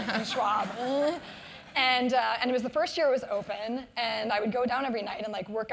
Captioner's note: laugh